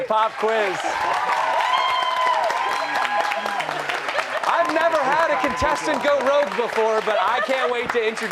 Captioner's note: cheers and applause